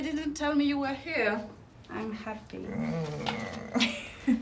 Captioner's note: moans